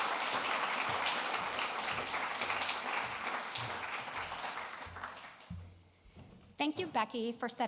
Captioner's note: applause